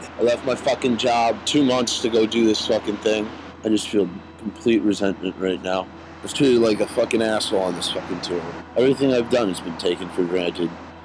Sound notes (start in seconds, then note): none